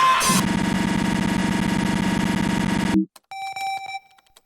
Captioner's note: video rumbling; video beeping